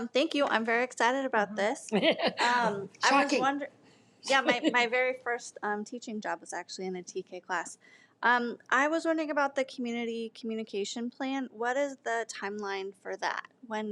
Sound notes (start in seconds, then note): 1.9 laughing